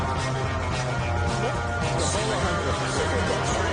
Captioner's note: crowd humming